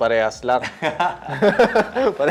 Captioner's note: laughs